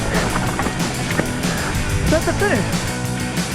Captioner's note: wheels crunching; upbeat music